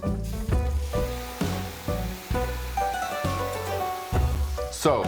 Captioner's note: sizzling